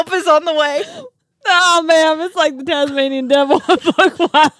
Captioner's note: laughing; laughing